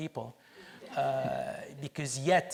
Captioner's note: audience laughs